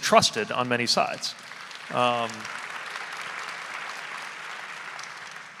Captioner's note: audience applauding